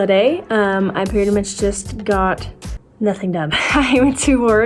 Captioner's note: chuckles